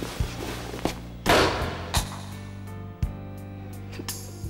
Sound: balloon pops

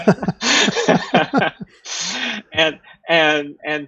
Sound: laughter

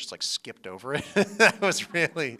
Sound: laughter

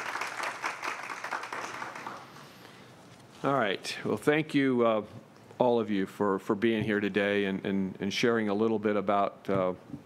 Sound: applause

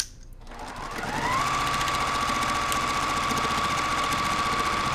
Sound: sewing machine resounding

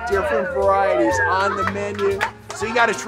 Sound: group cheers

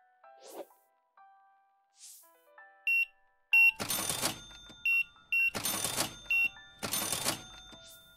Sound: beeping

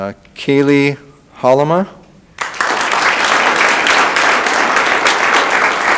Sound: audience applauding

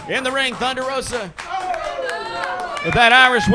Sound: audience clapping

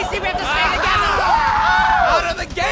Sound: screams

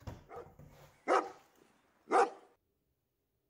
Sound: dog barking

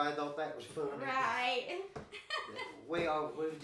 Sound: chuckling

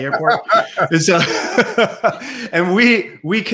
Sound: laughs

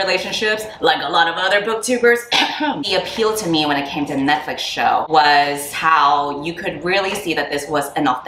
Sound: cough

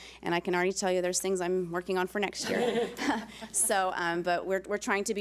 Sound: board laughs

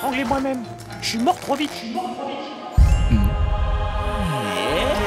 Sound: echo

